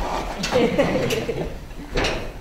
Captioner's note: laughter